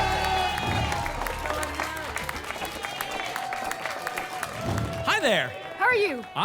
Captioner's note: applause and cheering cont